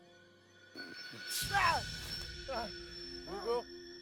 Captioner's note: Hugo yelling